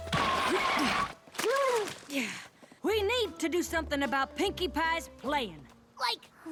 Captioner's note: gasp